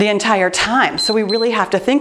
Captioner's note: timer beeps